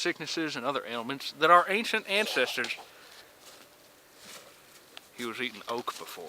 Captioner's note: heaving